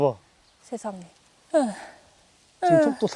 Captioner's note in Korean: 한숨